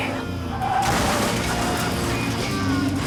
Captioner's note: metal crunches; dramatic rock music